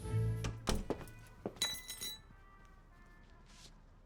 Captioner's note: music playing from gramophone; keys clanging